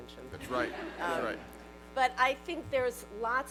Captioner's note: laughter